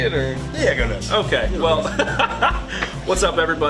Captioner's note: laughs